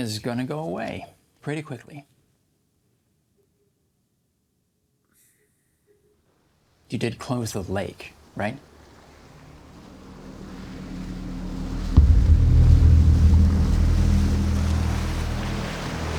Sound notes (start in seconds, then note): 8.6 water splashing; 9.2 tense music